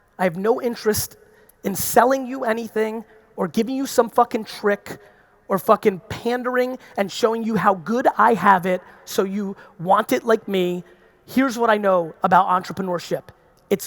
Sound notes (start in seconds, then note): none